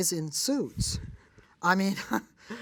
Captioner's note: laughs